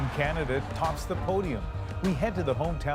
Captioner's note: cheers and Applause